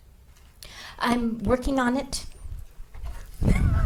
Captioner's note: laughing